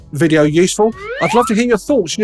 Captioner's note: character whistling